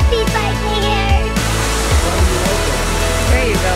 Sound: rushing water

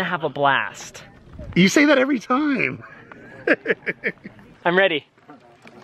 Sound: laughing

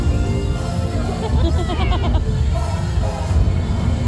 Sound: both laugh

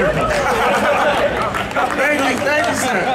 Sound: announcers laughing

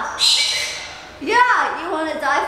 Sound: bird squawking

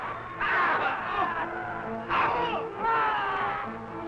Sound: crowd yelling

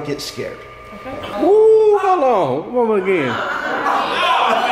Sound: crowd yelling

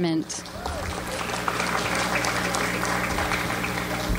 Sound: audience applauds

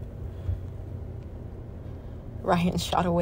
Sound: none

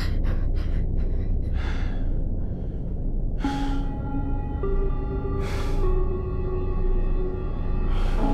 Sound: scared muffled breathing; slow breathing

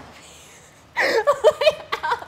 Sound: laughter

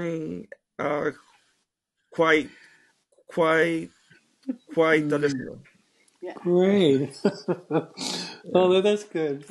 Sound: chuckles

